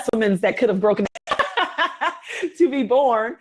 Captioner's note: both laugh